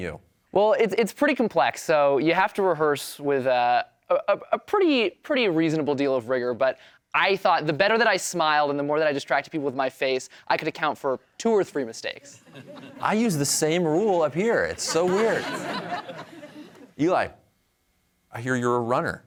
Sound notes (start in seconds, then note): 14.7 laughter